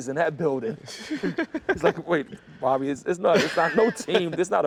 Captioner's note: laughter